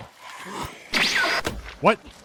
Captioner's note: woosh